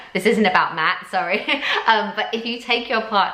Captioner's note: giggles